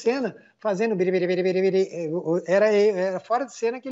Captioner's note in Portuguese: ruídos com a boca